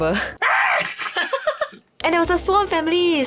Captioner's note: swan scream